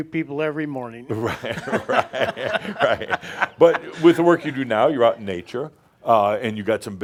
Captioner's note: they laugh